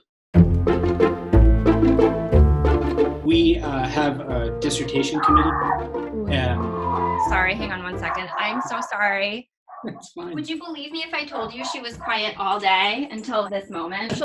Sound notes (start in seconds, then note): 5.0 dog growling; 8.0 dog barking